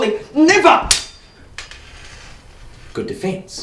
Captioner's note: clang